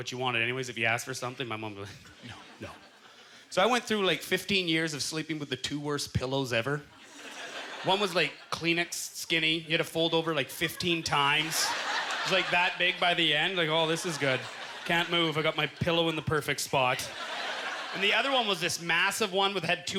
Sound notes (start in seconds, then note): 12.3 audience laughter